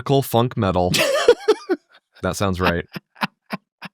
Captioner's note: laughing